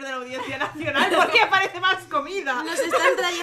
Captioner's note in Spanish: risas